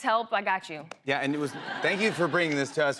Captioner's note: laughter